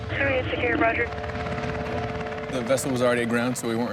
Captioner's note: woman On Radio